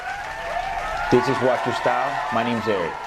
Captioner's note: applause